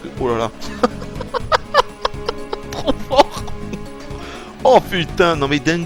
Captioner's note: laughs